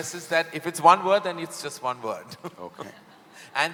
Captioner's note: laughs